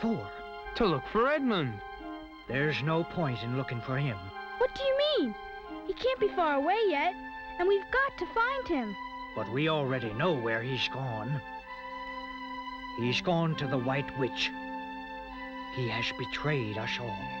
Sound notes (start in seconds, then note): none